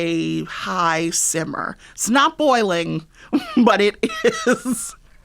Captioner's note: laughter